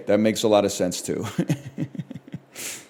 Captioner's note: laughs